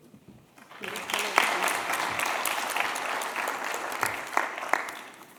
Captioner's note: applause